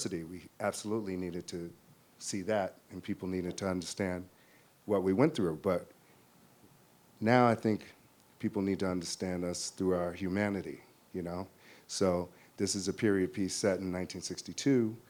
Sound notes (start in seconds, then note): none